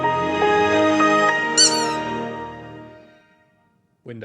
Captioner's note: jingle music; squeak